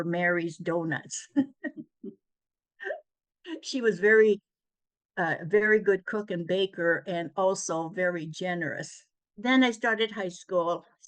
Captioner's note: laughs